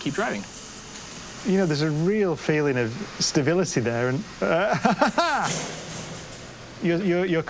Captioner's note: laughs